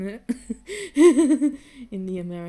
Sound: laughing

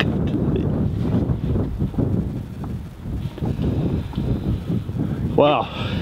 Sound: wind gushes

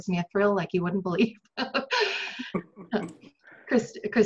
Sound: laughs

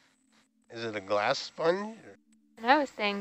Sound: male Voice

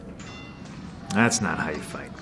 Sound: ring bell dings

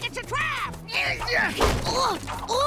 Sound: groaning

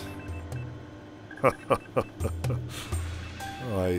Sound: laughing

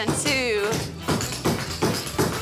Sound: tap dancing

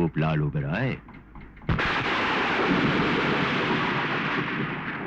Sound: thunder crashing

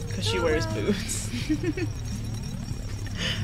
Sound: giggles

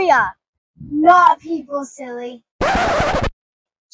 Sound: SFX turntable record scratch

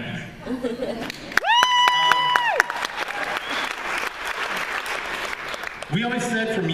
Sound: applause

